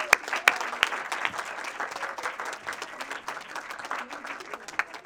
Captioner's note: audience applauding